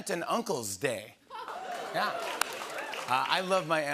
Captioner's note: cheers and applause